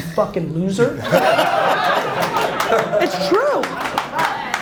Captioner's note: audience laughs, claps